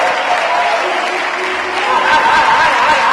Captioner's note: applause